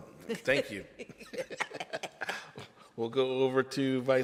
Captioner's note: laughter